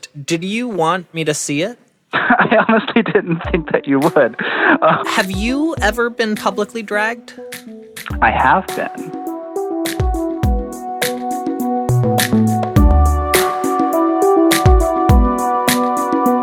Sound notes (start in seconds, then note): 2.1 laughs; 9.6 funky music